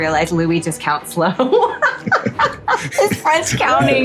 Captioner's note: laughing